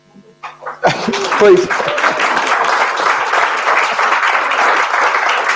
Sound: audience applauding

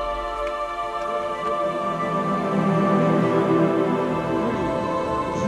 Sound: chatter

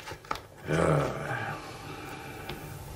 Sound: sighs annoyed

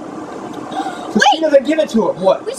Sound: gasps

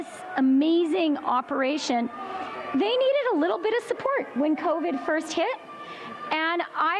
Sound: chanting

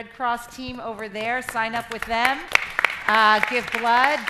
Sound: crowd applauding

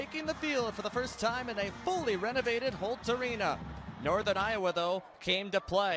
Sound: cheering and music

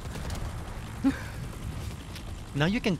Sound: laughing

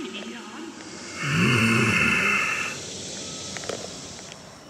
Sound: Sladkey Growling

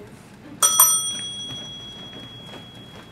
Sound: bell dings

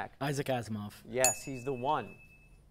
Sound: ding

